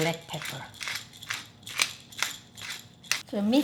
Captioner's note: grinder clacking